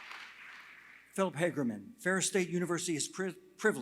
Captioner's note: applause